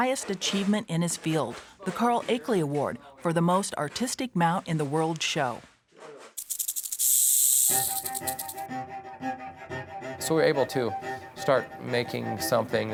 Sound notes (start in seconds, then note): 6.4 rattlesnake's rattle